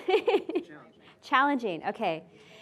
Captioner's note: laughing